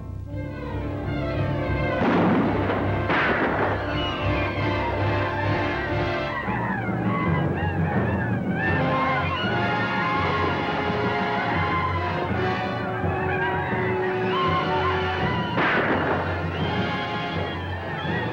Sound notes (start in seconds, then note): 1.9 gunshots; 6.1 yelling; 15.5 gunshot